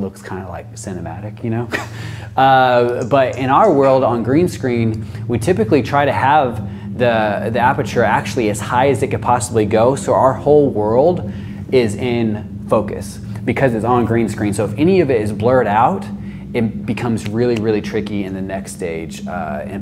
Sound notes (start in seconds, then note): 1.6 chuckles